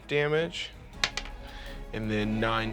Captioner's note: rolls dice